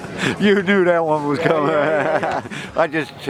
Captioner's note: laughs